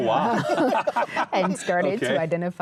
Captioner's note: laughing